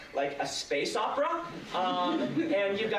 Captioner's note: laughter